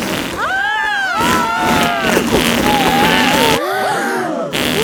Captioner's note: both screaming; crowd gasps